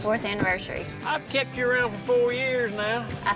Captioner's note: says jokingly